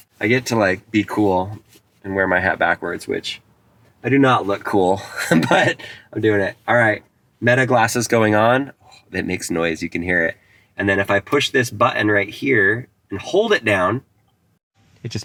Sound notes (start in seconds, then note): 5.1 laughs